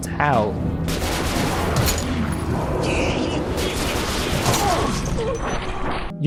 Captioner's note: sound of Demon Bullshit